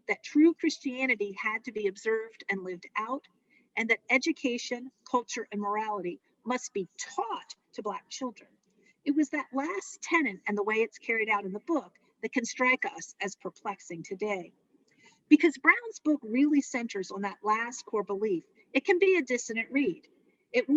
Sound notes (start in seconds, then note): none